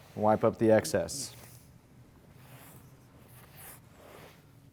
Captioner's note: cloth strokes